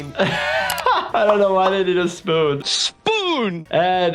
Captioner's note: laughs